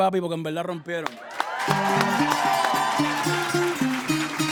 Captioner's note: applause and cheering; band starts playing